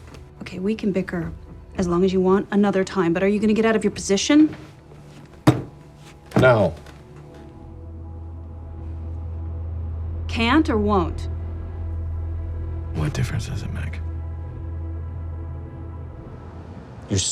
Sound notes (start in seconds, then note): 5.0 heels thud; 7.2 suspenseful music continues; 14.5 suspenseful music continues